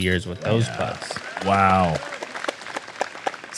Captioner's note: applause